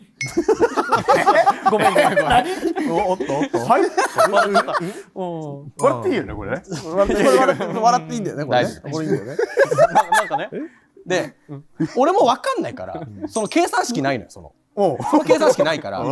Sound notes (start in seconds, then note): 0.2 laughter